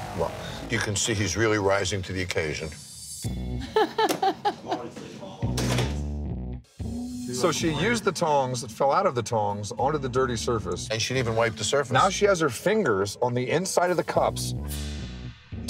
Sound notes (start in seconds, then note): 3.6 barmaid laughing